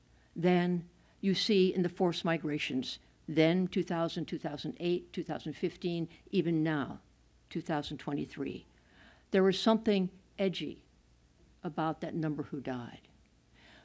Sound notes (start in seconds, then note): none